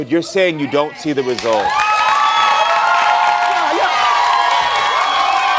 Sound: audience cheers

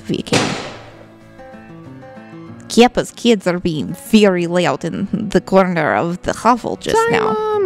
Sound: loud thud

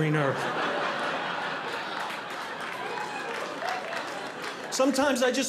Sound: audience laughing

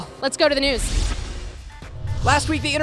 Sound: whoosh

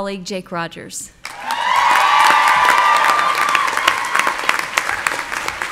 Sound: audience cheering

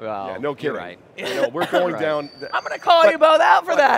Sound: coughing

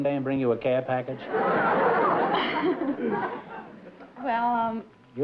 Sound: laughter

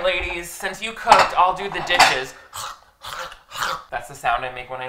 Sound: slurping

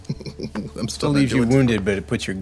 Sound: laughing

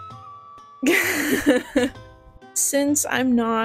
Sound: laughter

